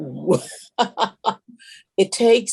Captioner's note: laughs